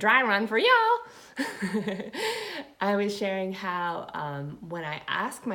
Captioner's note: laughing